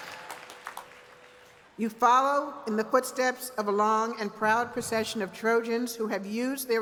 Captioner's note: cheers and applause